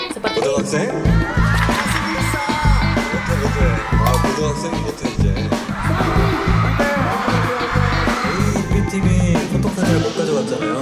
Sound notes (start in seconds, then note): 1.0 everyone cheers